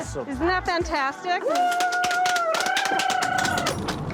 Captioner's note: cheers and applause